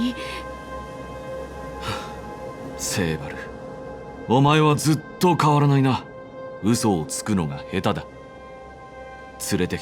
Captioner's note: sigh